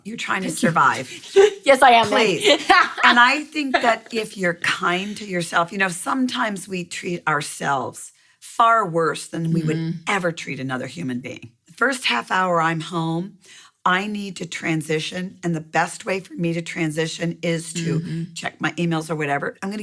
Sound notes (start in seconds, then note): 2.6 laughing